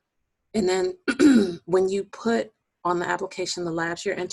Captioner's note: clearing voice